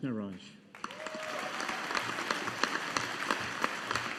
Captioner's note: audience applauding